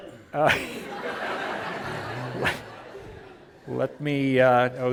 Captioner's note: laughter